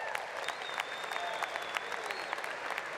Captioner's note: applause